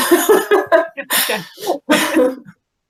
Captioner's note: laughing